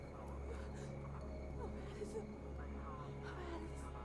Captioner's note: sobbing